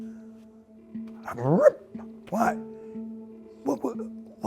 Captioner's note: imitating tent zipper